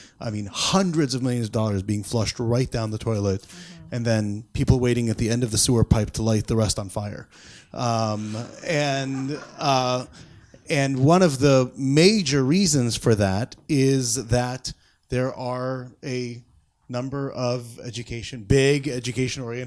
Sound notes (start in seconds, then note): 8.2 audience laughs